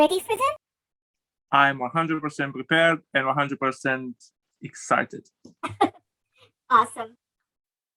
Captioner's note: laughs